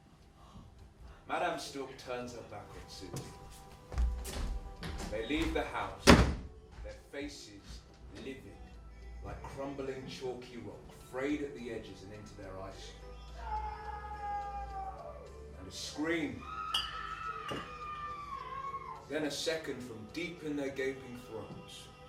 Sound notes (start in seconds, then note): 13.3 distant male scream; 16.4 distant female scream